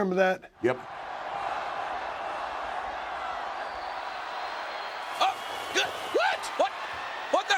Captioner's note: applause